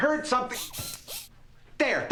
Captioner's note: whirring